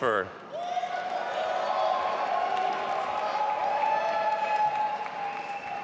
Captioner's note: audience applauding and cheering